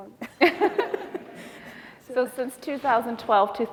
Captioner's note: laughing